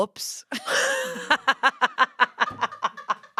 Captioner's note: laughter